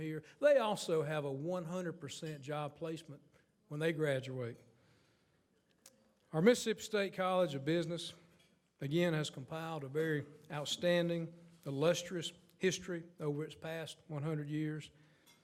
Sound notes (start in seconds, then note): none